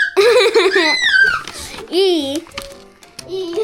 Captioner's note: laughter